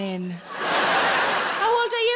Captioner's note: audience laughs